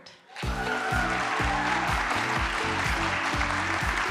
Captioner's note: applause,music playing